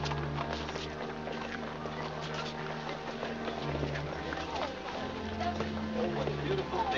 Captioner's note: hooves trotting; organ plays; indistinct conversation